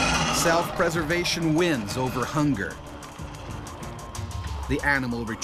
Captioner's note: voiceover